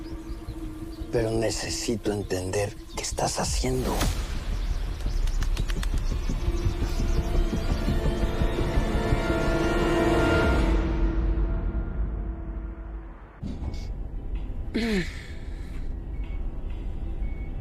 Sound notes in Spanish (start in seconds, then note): 14.7 Diana carraspea